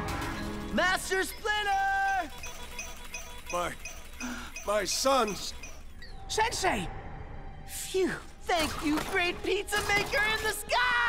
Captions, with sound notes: Master Splinter! My... [gasping] My sons! Sensei! Phew. Thank you, great pizza maker in the sky!